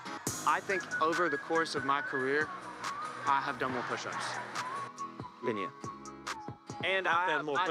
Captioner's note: laughter